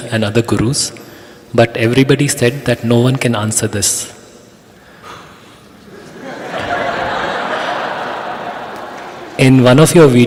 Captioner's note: laughter